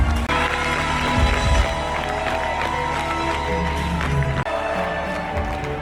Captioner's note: crowd cheering and music playing